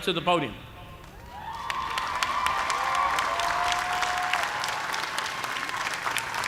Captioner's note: cheers and applause